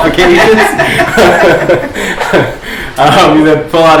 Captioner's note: laughter